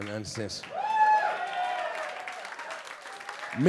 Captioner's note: audience clapping and cheering